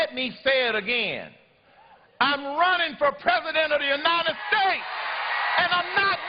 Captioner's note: cheers and applause